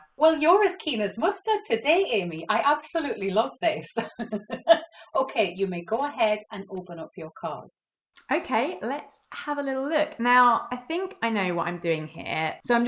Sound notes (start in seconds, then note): 3.9 laughs